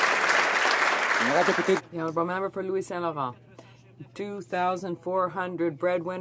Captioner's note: some Applause